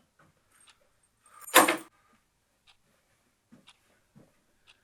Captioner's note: keys jingle; clock ticking